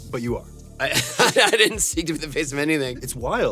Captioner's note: laughs